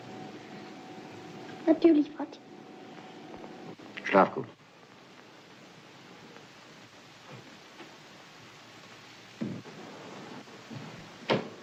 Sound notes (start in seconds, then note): 1.3 weeping